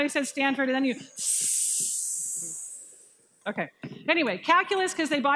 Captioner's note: hissing